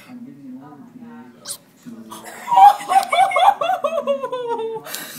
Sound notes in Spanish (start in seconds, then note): 2.2 Risa de mono aullando